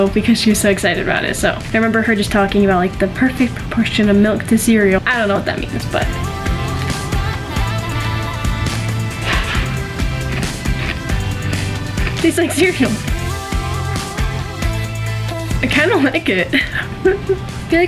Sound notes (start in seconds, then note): 6.8 upbeat music; 8.6 cereal crunching; 13.0 upbeat music